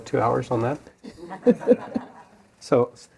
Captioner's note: laughter